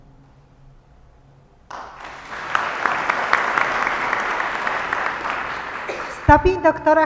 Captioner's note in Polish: oklaski